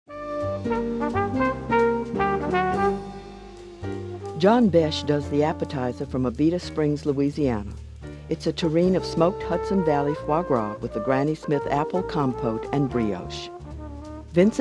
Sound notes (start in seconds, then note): 0.5 light music; 4.9 voiceover